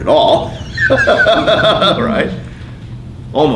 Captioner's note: laughing